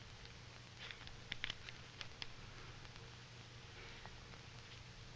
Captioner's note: none